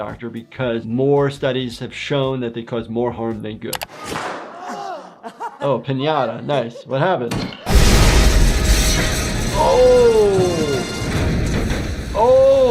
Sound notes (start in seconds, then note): 4.4 all groan; 7.3 glass shattering